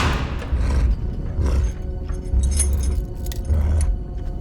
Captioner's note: suspenseful music playing; cyclops growling softly